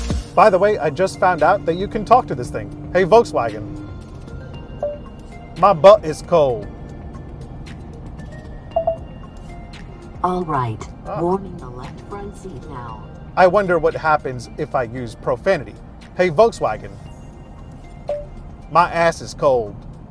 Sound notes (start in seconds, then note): 4.7 beeping; 6.7 soft upbeat music; 6.7 vehicle engine roaring; 8.7 beeping; 18.0 beeping